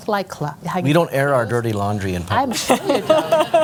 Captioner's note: laughter